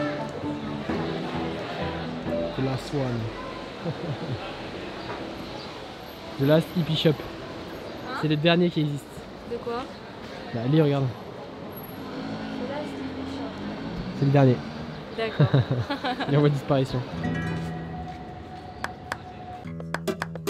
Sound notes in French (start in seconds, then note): 3.8 rire; 15.2 rire